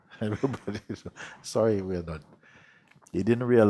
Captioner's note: chuckling